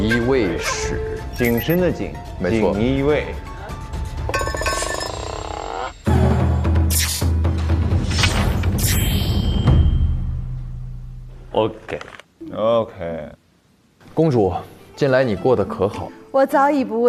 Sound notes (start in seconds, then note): 9.5 dong